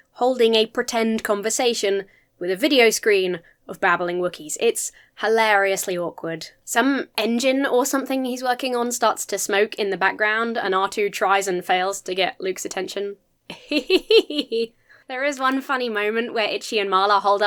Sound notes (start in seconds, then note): 13.5 pretends to laugh